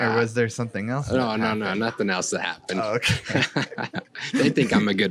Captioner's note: laughs